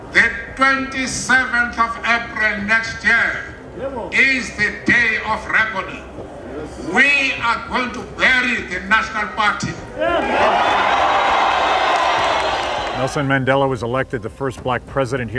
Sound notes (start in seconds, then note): 9.9 crowd cheers